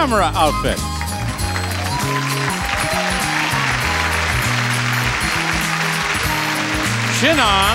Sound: cheery music; audience clapping

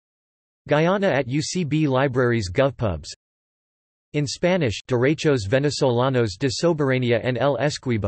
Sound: in Spanish

